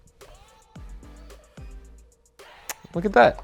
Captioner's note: beeping